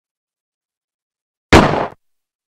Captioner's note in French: Coup de feu